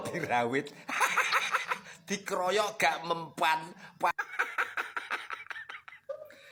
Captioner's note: laughs